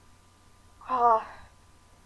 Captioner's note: sigh